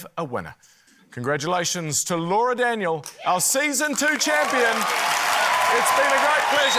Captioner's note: cheering, applause